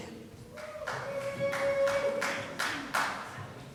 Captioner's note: applause